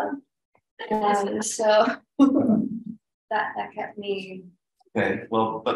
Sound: chuckles

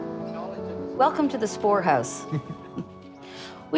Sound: laughs

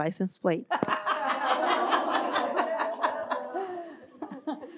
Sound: laughter

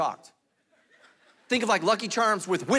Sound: congregation laughing

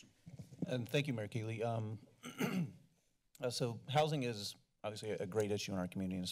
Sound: clears throat

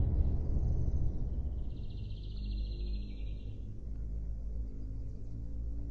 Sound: birds chirping

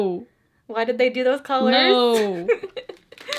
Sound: laughs

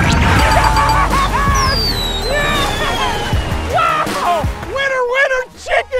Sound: fireworks

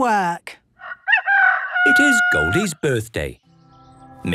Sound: rooster crowing

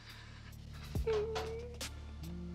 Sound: breathing shakily; whimpers

